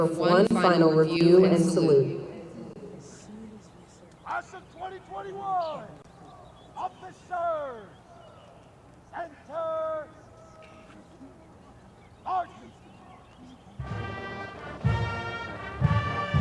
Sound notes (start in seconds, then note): 3.7 shouted commands